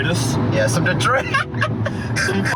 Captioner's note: laughs